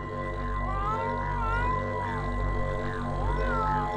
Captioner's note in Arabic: مواء القطة